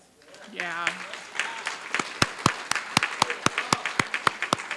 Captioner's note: applause